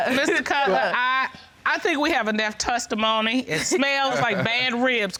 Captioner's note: laughter